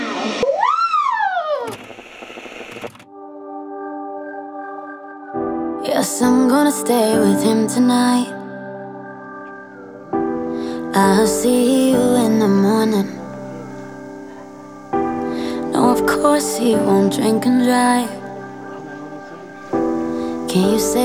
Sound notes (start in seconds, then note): 1.2 static screeching; 3.6 gentle music